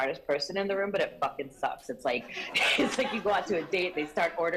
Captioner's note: laughter